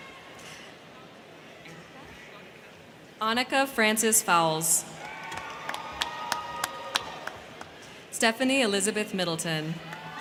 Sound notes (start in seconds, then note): 4.8 crowd cheering; 4.9 crowd clapping; 9.8 crowd cheering; 9.8 crowd clapping